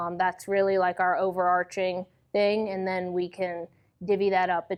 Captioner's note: none